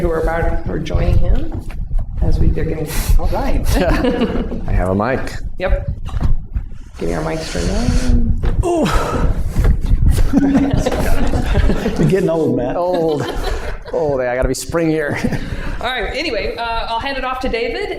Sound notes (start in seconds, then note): 8.6 grunts; 10.2 laughter